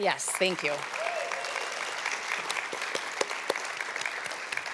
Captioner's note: applause